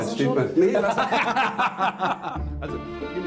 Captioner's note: they laugh loudly